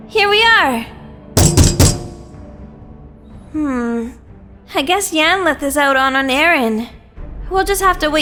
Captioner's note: walking; knocks on door